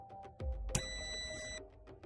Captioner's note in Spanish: sonido: piiiii